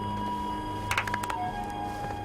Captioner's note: clapping